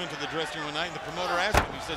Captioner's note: crowd chatter